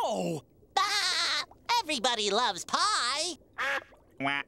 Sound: laughing

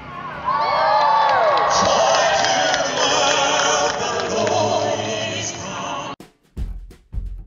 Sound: crowd Cheering

